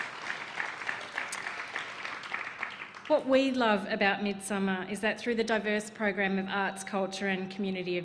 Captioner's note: applause